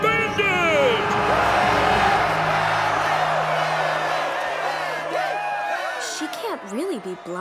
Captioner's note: cheering